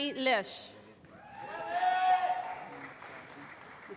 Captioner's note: applause